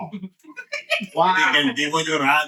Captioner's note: laughing